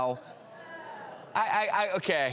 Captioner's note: audience groans